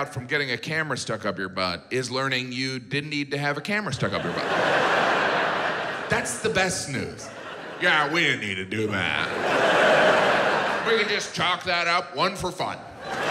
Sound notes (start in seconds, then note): 4.5 audience laughs; 9.1 audience laughs